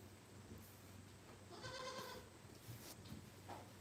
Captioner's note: goat bleats